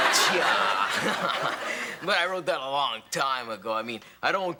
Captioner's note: laughs